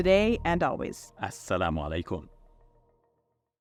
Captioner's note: speaking Arabic